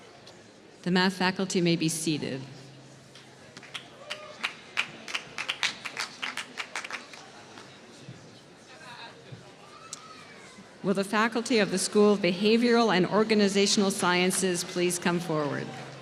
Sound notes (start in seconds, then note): 4.0 applause